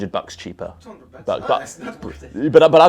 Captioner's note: laughs